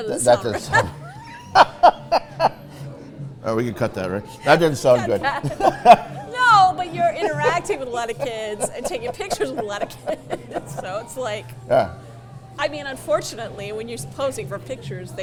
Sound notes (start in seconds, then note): 3.0 laughs; 5.2 laughs